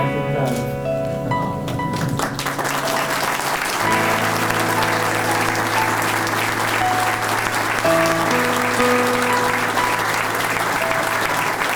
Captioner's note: 26 seconds of clapping